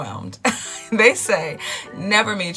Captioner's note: laughs